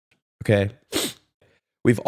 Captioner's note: sniff